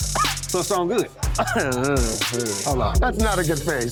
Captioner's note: coughs